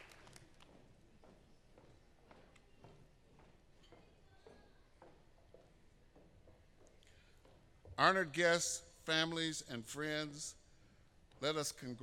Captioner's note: applause